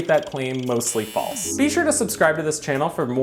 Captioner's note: meter buzzing